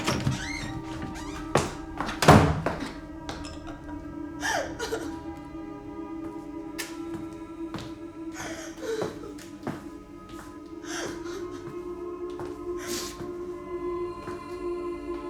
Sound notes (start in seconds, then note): 0.0 door clattering and squeaking; 4.5 Dorothy sobbing; 4.5 eerie music; 7.4 footsteps plodding; 8.2 Dorothy continues sobbing